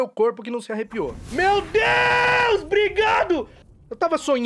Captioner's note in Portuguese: gritando